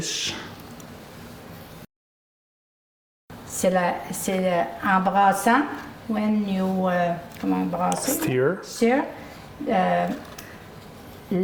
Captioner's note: French